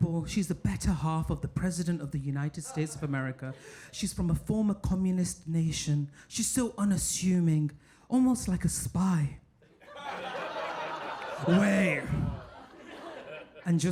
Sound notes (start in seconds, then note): 9.7 audience laughing